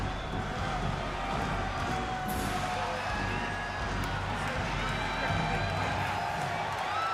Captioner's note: applause